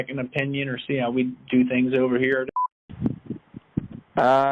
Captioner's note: beep